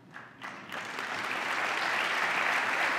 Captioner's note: applause